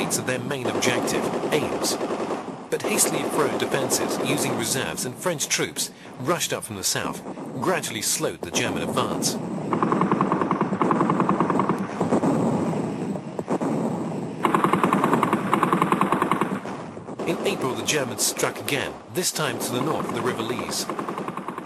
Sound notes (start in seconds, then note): 9.6 guns blasting; 9.6 heavy artillery booming